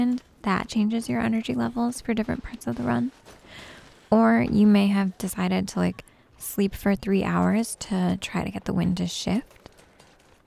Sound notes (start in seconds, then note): none